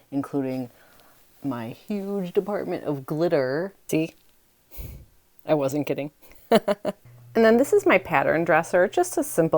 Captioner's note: laughs